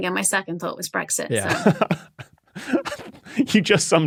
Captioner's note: chuckles